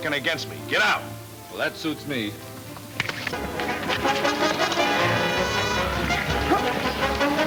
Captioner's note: exciting orchestra music; smacking